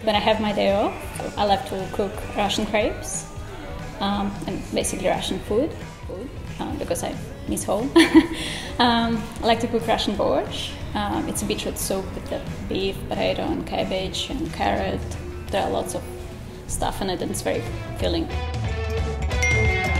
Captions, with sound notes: When I have my day off, I like to cook Russian crepes. And, basically, Russian food because I miss home. (laughs) I like to cook Russian borscht. It's a beetroot soup with beef, potato, and cabbage and carrot. There are lots of stuff and it is very filling.